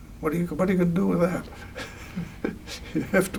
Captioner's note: laughs